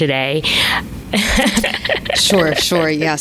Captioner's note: laughs